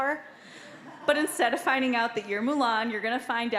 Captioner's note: audience laughing